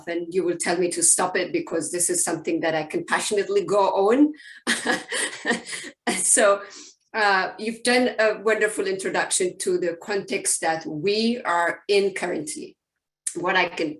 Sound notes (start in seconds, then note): 4.7 laughs